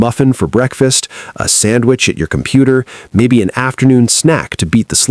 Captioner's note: voiceover